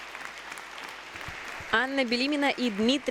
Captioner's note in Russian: аплодисменты